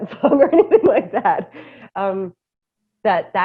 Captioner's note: laughter